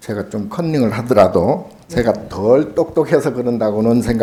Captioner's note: speaking Korean